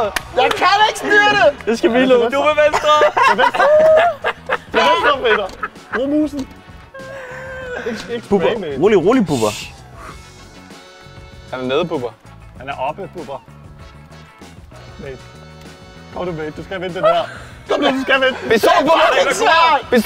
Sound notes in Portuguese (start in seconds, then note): 2.7 Risada